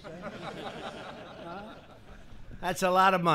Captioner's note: laughter